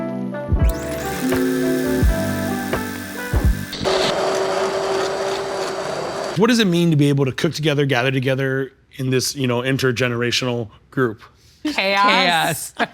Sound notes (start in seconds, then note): 0.6 blender whirring